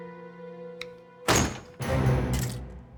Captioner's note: door opens suddenly